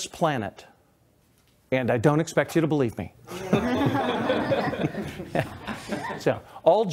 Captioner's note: laughter